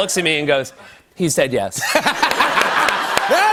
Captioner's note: laughter